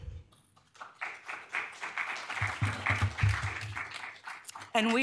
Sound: audience applauding

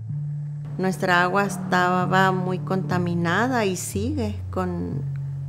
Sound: speaking in foreign language

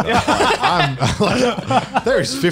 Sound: laughs

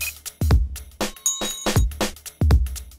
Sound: ding

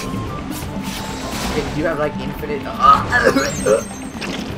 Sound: cough cough sputter

